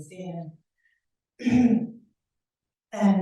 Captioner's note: clears throat